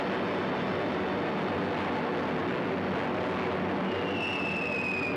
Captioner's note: airplanes droning